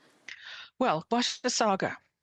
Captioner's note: speaking French